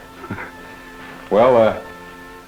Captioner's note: chuckles